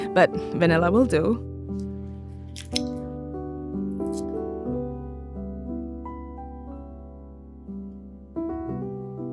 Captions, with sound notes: but vanilla will do. [galette crunches] [fork clanging] [soft piano music continues]